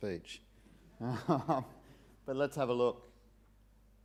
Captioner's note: laughs